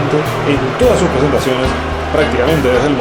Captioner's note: SOUND: Loud boos from a crowd